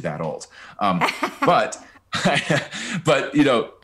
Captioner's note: laughing